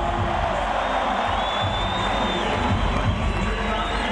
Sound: crowd goes wild

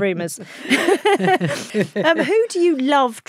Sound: both laughing

